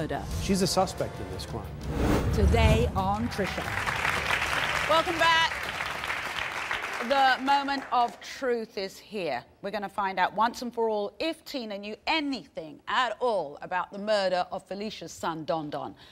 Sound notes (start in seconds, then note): 3.0 applauding